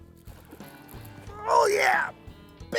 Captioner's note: grunting